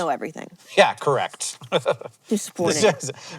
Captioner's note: chuckles